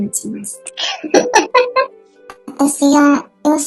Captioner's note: laughs